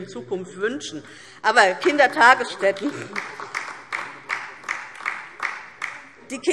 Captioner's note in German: Beifall DIE LINKE